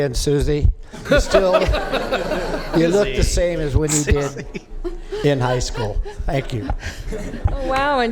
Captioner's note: laughter